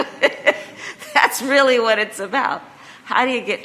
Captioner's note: laughs